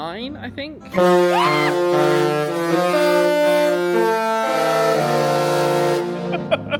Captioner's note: screams